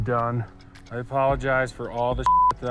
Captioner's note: beep